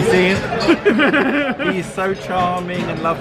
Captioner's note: laughing